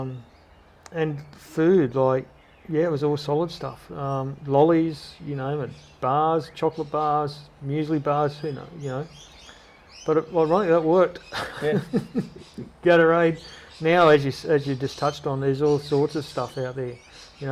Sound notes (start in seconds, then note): 11.2 laughter